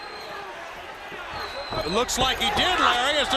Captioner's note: crowd chatter